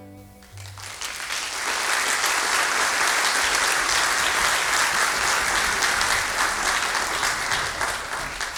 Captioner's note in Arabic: توقف الموسيقى. تصفيق